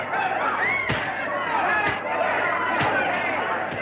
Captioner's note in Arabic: صيحات الجمهور; ضربات قوية; ضربة قوية